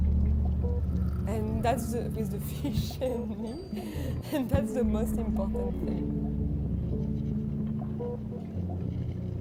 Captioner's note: laughing